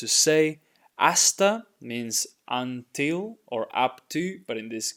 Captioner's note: speaking in Spanish